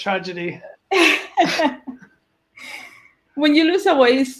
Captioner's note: laughs